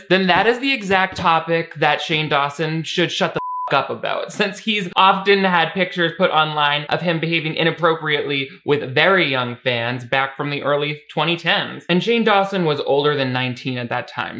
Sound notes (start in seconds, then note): 3.4 beep